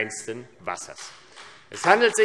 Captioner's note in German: Beifall AfD